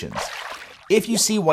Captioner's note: water splashing